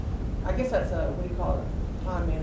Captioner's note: voiceover